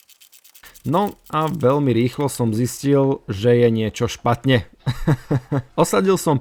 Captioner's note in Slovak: smiech